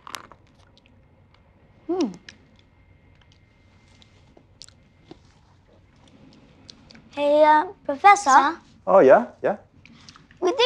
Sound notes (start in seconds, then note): 0.0 crunching noise; 3.6 chewing